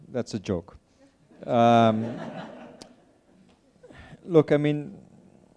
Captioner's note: attendees laughing